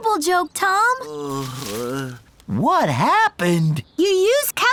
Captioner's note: groaning